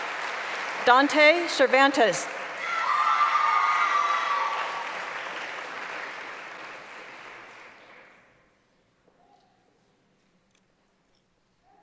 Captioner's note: applause; cheering; applause